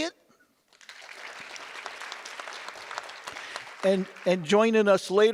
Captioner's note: audience applause